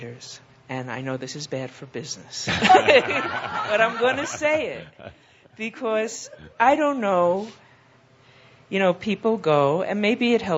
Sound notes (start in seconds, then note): 2.4 laughter